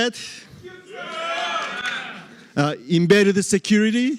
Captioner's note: cheering